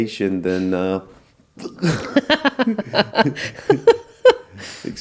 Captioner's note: laughter